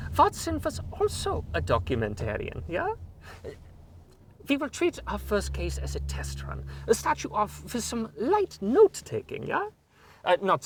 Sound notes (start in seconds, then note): none